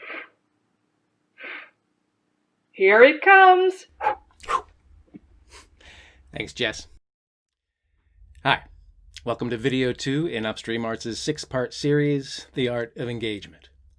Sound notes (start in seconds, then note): 4.4 makes throwing sound; 4.9 makes catching sound